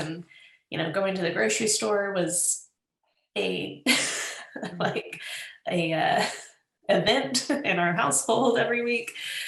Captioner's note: laughs